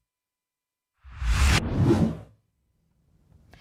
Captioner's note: whoosh